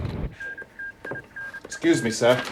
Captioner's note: morse code beeping